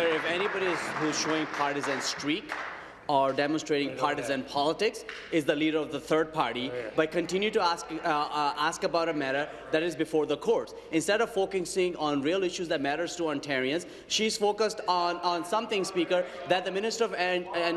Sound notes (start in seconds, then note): 0.0 applause